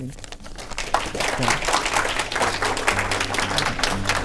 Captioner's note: applause